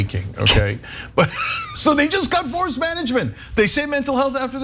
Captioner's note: laugh